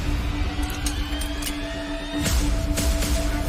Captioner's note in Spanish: Ruido al enristrar